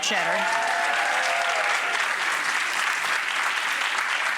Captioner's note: applause